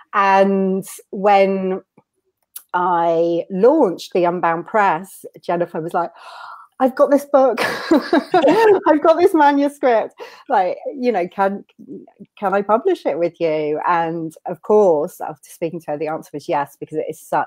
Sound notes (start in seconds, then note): 6.6 inhales; 7.9 laughs